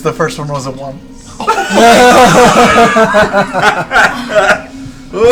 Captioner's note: all laugh